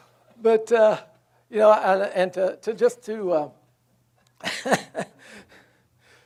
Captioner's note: laughs